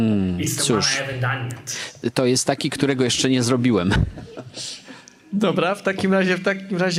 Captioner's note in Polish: śmiech